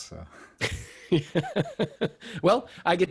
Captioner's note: laughs loudly